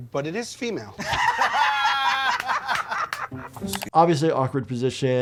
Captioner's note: all laughing